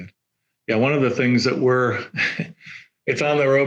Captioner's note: chuckles